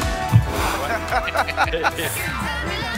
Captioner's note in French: rires